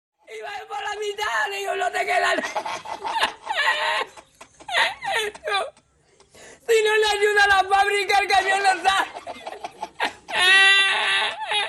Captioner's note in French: Rires